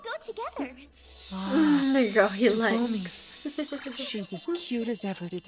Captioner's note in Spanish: Vibrando alto